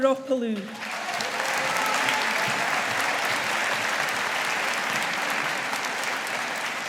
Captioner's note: audience applauding